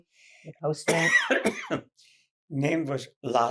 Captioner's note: coughing